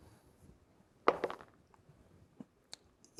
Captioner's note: dice rolling